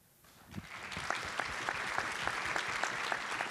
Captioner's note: applause